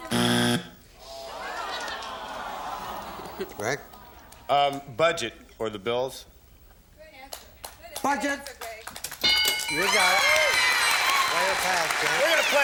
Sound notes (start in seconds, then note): 0.0 buzzer; 7.6 applause; 9.2 bell